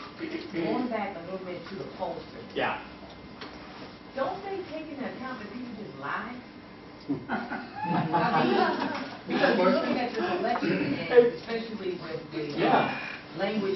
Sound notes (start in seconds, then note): 7.1 laughter